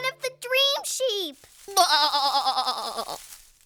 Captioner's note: sad bleating